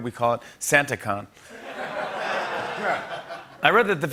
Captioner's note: laughter